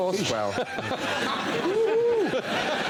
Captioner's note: laughing agreeably